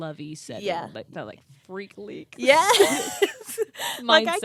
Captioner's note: both laughing